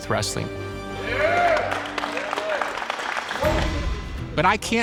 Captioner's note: cheering and applauding